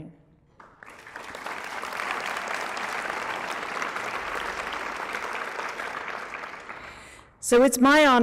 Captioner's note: applause